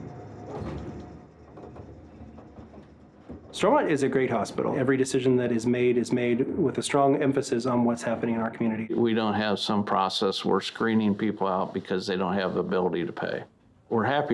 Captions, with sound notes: (elevator gently rumbles) Stormont is a great hospital. Every decision that is made is made with a strong emphasis on what's happening in our community. - We don't have some process where we're screening people out because they don't have the ability to pay.